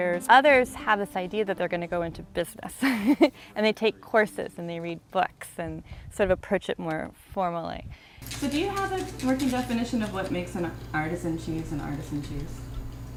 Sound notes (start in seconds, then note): 2.8 laughs